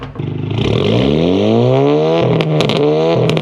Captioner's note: exhaust popping; car engine revving; exhaust popping